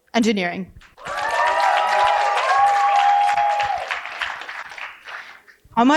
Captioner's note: cheering and applause